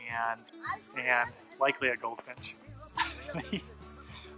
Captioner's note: laughs